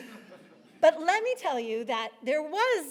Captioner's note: audience laughs